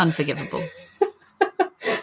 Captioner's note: laughs